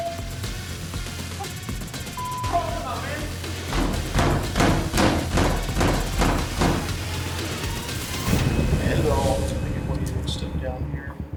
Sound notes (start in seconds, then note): 3.6 banging